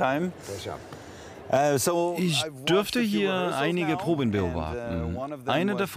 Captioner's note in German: englisch